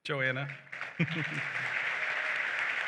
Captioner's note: chuckles; applause